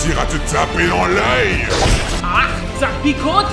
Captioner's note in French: éclaboussures